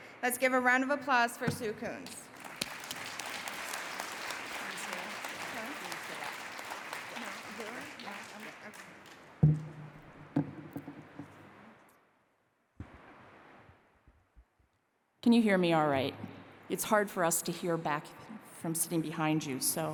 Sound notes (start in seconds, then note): 2.0 applause